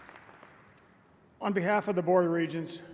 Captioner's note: applause